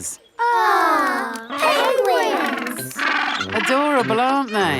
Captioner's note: penguins chatter